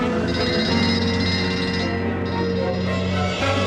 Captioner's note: bell clamouring